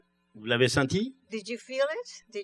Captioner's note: speaking french